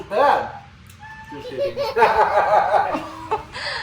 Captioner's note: baby laughing; just kidding, laughing; me laughing forcefully